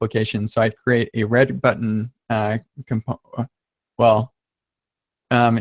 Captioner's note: stammering